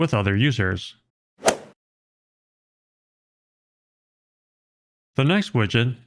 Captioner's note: golf ball hit sound effect